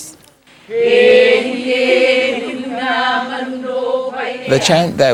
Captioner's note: chanting